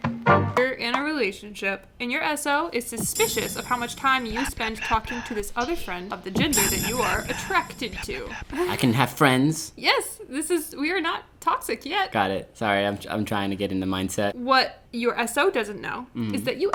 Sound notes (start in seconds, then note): 3.8 laughing; 4.5 whispering; 6.9 whispering